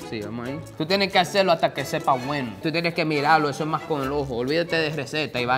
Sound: speaking in foreign language

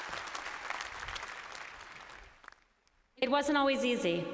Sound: applause

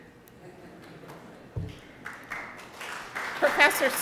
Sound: audience applauding

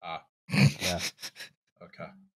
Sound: snickers

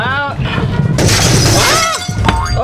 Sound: glass breaking

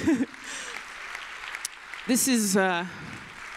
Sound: applause

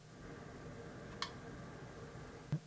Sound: click

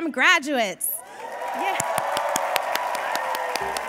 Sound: cheers and applause

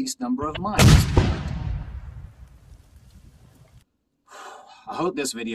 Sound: mine explodes

